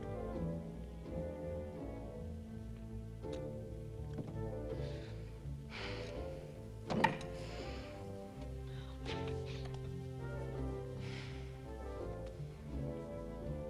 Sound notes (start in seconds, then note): 5.9 Tracima sighs